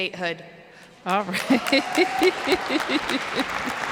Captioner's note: applause